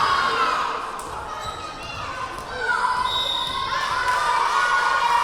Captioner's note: yelling; whistle blowing